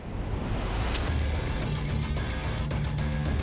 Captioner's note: ice shattering